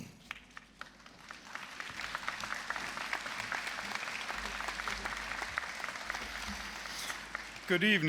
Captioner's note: applause